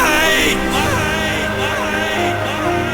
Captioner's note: echoing